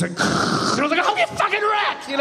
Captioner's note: imitating truck whirring